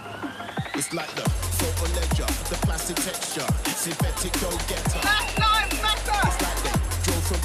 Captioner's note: crowd